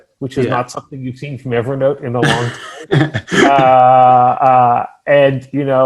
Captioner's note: chuckles